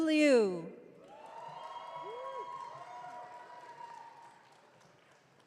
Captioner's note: audience cheering